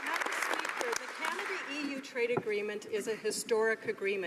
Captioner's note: some Applause